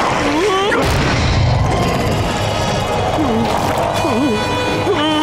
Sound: roaring; screaming; growling; whimpering

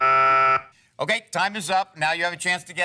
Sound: buzzer

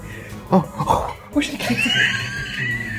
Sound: laughs; laughs uncontrollably

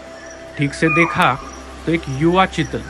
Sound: chital Deer Alarm Call

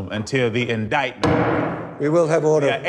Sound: gavel pounds

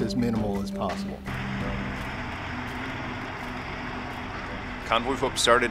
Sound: truck engine roaring

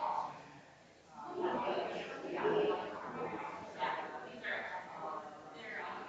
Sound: people chattering distantly continues

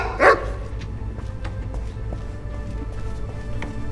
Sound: boots rapidly approaching; music crescendos

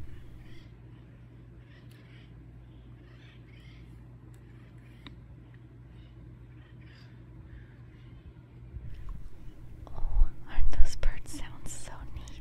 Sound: birds chirping

